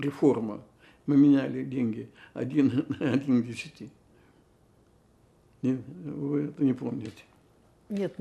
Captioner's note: laughing